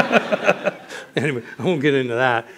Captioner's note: laughter